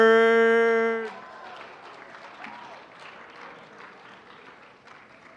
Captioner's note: applause